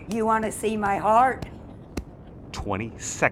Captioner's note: hand thumping